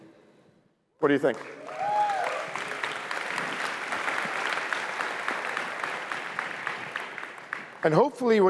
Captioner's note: applause